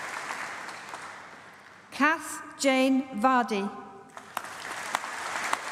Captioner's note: applause